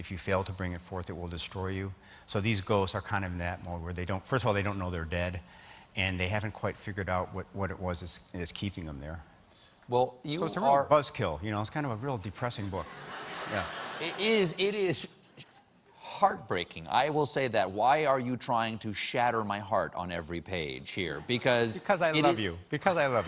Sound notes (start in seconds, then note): 12.8 laughter